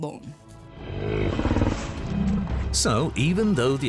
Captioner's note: snorts